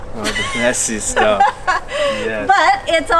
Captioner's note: laughing